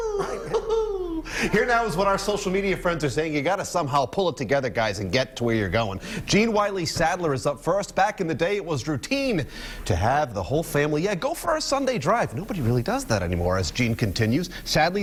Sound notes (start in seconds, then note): 2.1 laughter